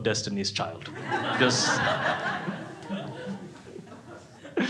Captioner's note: crowd laughs